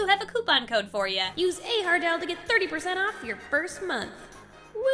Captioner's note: echoing